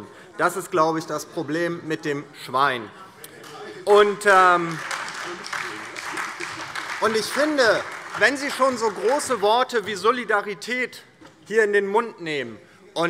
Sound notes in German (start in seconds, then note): 4.4 Beifall DIE LINKE, SPD und Freie Demokraten